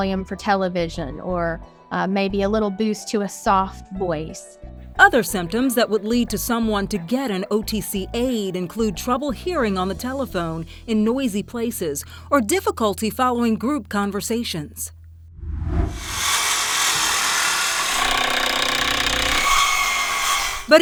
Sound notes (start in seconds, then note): 15.4 screen whooshes; 15.9 grinder whirring; 18.0 drill blaring